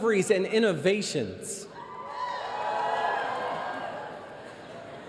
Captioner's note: cheering